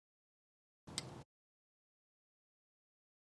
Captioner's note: click